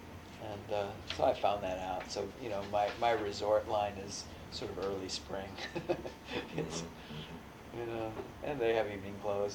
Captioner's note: laughs